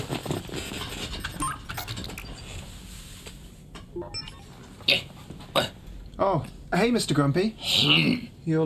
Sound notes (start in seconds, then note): 0.7 controls beeping